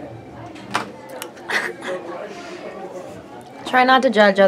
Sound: laughs

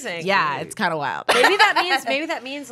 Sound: laughs

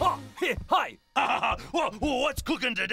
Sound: laughing

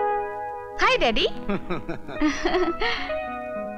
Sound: laughs

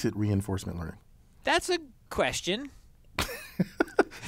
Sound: laugh

